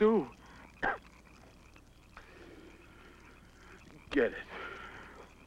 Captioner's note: John coughs